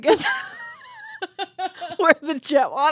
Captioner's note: laughing